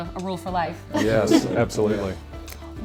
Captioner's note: laughs